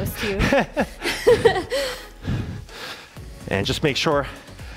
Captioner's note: both laughing